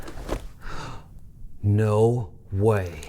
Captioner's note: Pete gasps